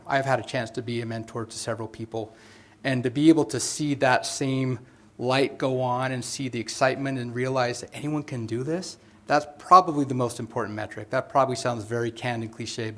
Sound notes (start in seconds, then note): none